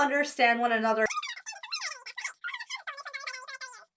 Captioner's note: voice speeds up